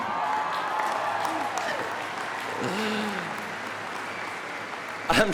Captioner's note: audience cheering